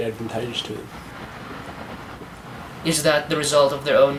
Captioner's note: car rustling